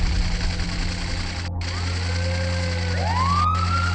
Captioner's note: siren wailing